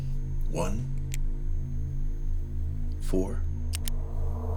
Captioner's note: pen clicking